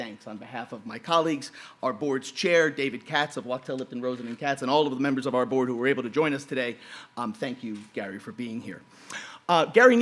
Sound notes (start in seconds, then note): none